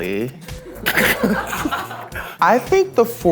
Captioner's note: participants laughing